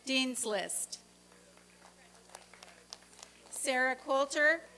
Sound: applause and cheering

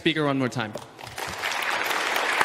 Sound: applause

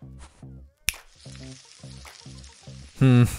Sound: sizzling

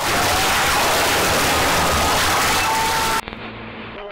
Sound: Noises you hear in Limbo

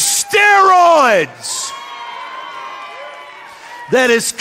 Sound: audience cheering

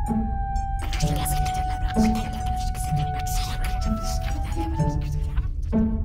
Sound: whispers

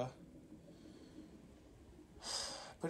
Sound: sigh of depression 2

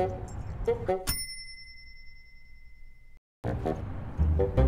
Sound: dinging

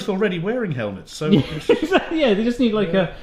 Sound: laughing

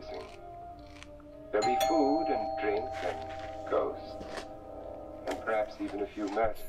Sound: doorbell rings

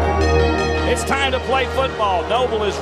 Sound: voiceover

